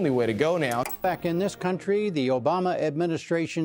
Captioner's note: TV clicking